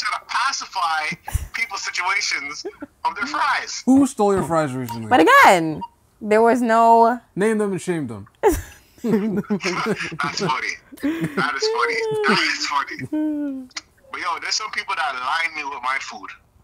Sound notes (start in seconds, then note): 9.0 both laughing